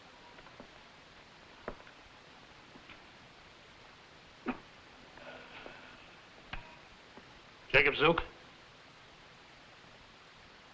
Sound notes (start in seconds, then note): 4.2 Jakob coughing and groaning